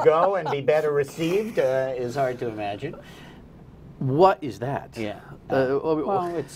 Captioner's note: laughter